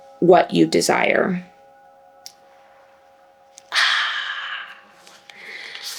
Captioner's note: sighs